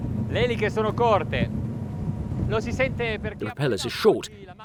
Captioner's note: speaking foreign language